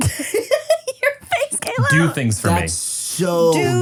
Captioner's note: laughing